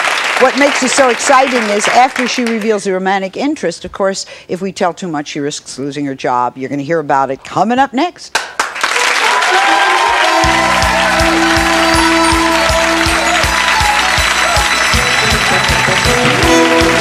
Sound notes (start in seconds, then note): 8.3 audience clapping; 9.4 audience cheering; 9.7 holiday music